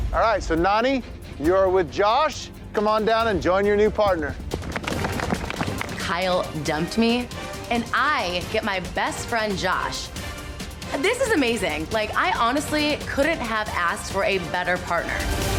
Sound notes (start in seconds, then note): 4.5 hand clapping